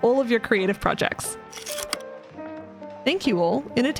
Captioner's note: projector slide click